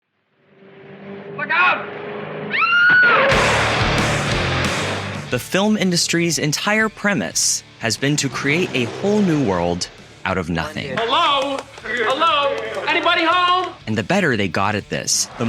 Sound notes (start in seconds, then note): 2.5 scream